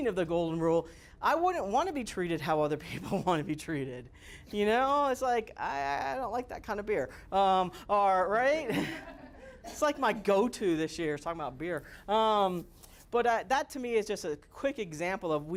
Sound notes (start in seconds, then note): 8.6 students laughing